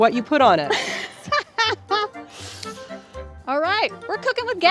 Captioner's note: laughs